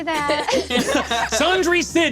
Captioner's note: laughs